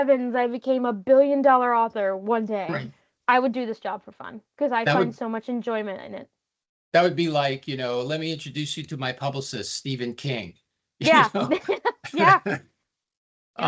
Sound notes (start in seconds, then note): 11.0 laughing